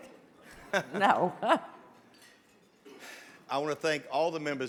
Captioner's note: laughs